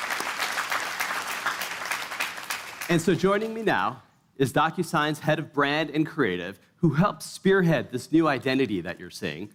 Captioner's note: cheers and applause